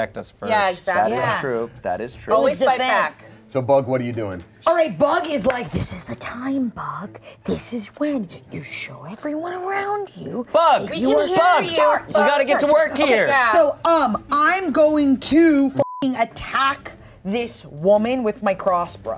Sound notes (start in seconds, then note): 15.8 beep